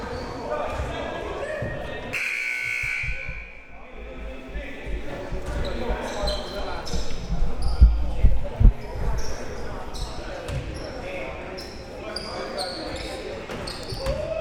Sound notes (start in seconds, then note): 2.1 buzzer